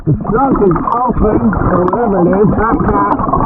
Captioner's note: faintly speaking